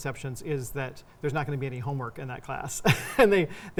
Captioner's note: laughs